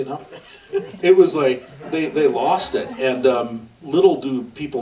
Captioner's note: audience laughter